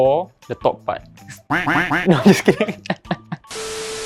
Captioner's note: quack